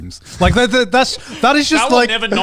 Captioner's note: laughing